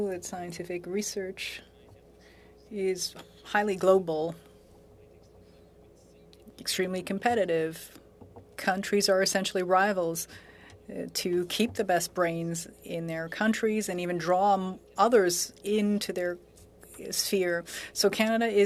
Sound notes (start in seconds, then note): 3.8 speaking French